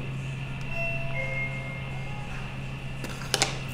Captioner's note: ding sound